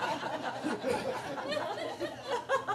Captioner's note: audience laughing